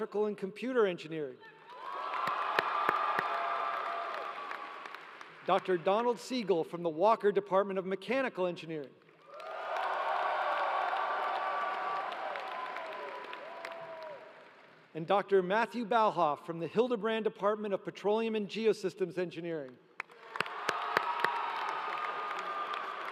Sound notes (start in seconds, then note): 3.4 applause; 12.4 applause